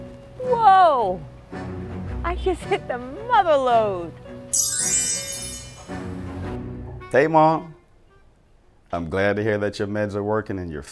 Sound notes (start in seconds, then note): 4.5 sparkles twinkle